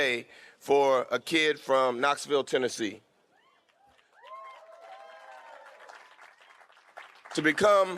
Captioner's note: fans cheering